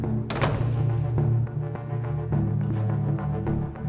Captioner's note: door latch clicking; door thudding